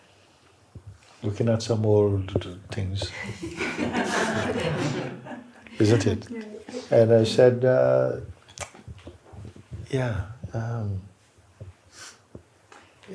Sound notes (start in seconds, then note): 3.1 laughter